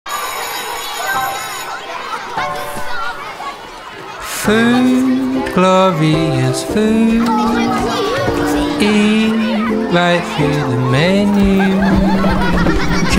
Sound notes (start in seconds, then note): 0.1 bell ringing